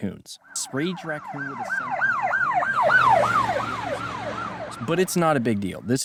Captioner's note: police car driving